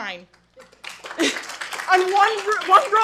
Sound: attendees applauding

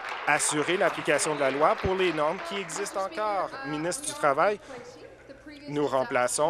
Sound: applause

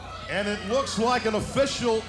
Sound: crowd boos

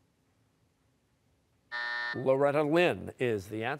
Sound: buzzer

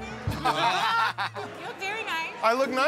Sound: laughter

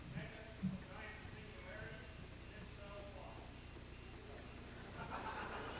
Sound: speaks faintly; audience laughs

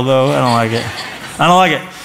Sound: laughter

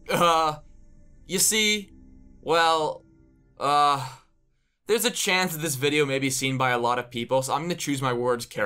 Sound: sigh

